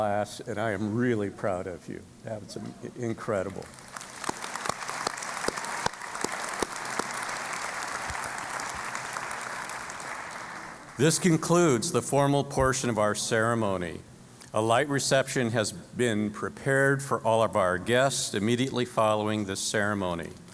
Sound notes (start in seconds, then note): 3.5 applause